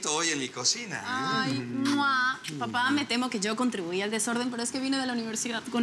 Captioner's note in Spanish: Risas y besos